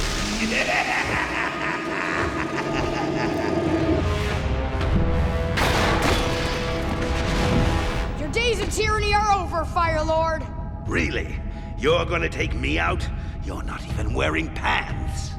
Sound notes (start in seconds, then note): 0.3 laughing; 5.5 thudding